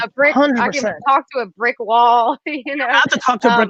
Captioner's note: laughs